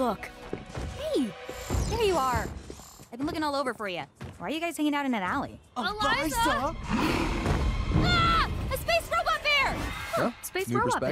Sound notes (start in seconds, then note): 6.8 growling